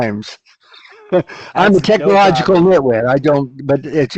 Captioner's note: laughs